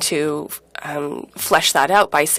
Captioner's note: speaking in French